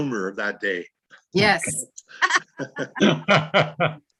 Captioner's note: laughing